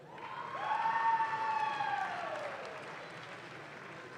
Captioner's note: audience claps